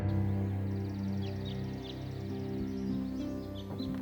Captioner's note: birds chirping